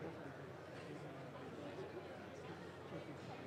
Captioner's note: none